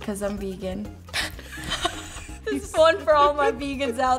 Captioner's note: laughs